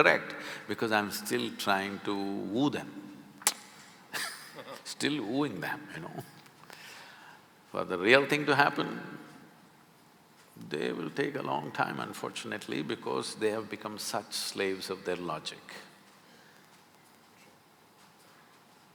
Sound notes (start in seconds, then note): 4.1 both laugh; 4.1 laughs